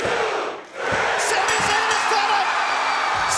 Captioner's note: bell rings